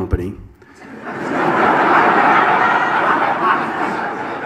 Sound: audience laughs

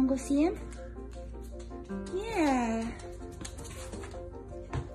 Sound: paws clacking

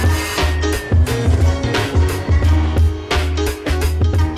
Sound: siren

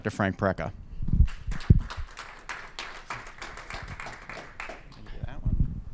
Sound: applause

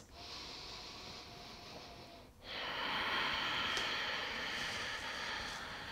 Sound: heavy breathing

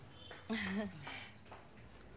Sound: mom chuckles

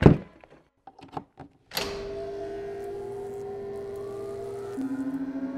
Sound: machine firing up

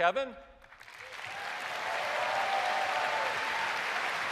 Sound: cheers and applause

